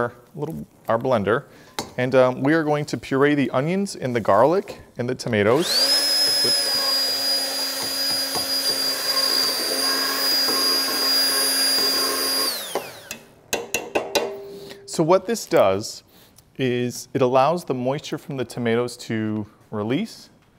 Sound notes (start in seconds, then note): 5.5 blender whirring